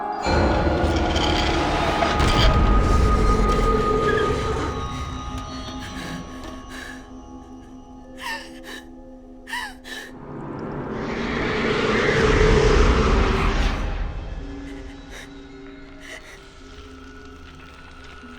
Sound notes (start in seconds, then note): 0.1 suspenseful music; 9.4 Rose whimpering; 10.2 suspenseful music; 14.6 Rose whimpering